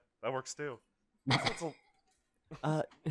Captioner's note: snorting laughter